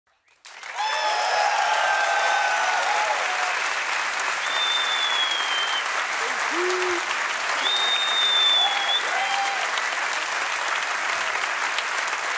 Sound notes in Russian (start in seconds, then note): 0.6 публика аплодирует